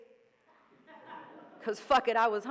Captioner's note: audience laughing